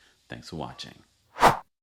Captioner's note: air whooshing